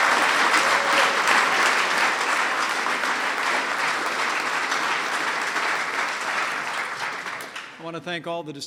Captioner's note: applause